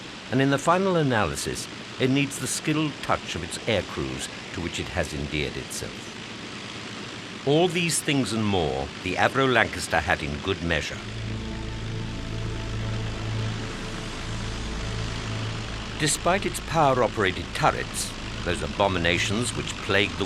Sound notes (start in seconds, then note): 10.1 pensive music; 11.3 plane engine roaring